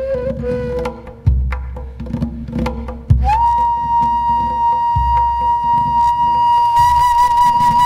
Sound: none

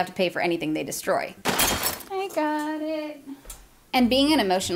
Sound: crashing sound

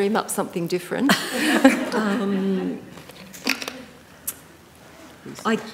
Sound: panellists laughing

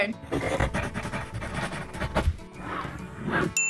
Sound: scribbling; whooshing

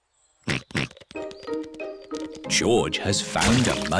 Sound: snorts

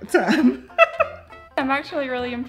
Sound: woman laughing

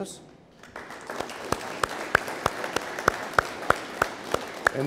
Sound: audience applauding

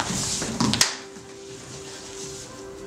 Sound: clap!

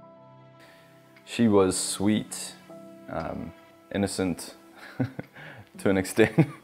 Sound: chuckles softly

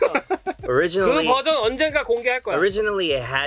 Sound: laughs; speaking in Korean

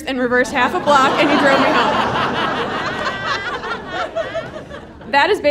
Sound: audience laughing

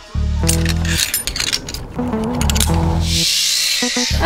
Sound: harness clicking; zip line whirring

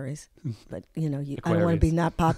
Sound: laughs

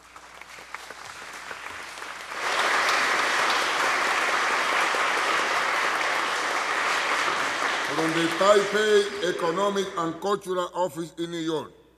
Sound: applause

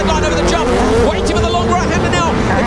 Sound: car engines drown out commentator

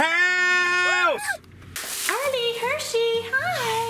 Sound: cheering

